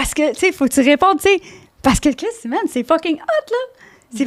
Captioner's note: in french